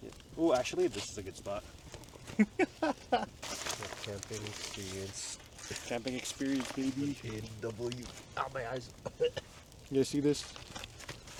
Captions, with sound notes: "Oh, actually this is a good spot" *laughs* "The camping experience" "Camping experience baby" "With the A&W, OW my eyes" *coughs* "You guys see this?"